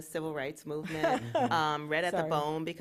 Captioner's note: chuckle